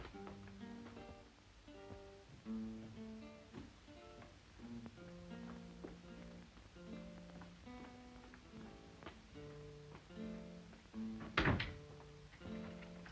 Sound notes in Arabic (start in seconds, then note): 0.0 موسيقى جيتار خافتة; 11.2 يغلق الباب; 12.4 موسيقى جيتار خافتة